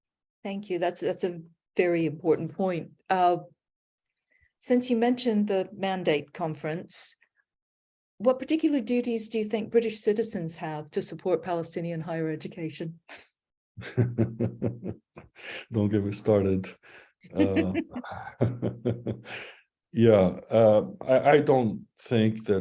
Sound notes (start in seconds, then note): 14.5 laughs